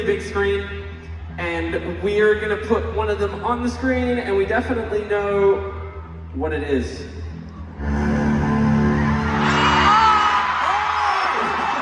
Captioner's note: crowd & scream